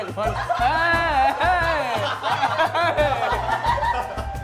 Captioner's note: laughing